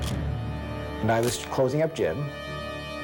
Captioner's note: camera shutter click